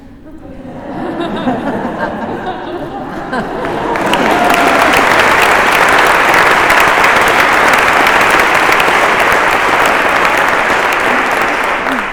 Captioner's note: laughter and applause